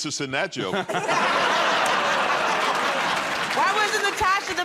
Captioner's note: laughter and applause